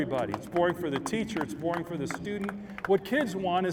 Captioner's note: applause